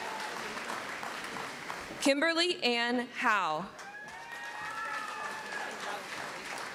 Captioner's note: applause